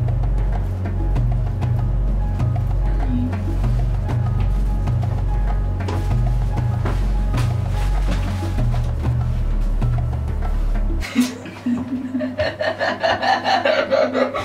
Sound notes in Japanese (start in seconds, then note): 11.0 引き笑いスタート